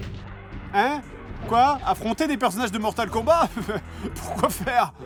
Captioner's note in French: rires